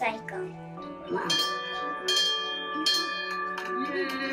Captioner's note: bell ringing